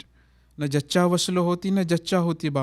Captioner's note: non-english speech